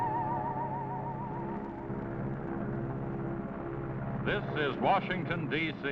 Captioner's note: airplane whirring